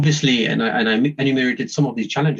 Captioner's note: murmurs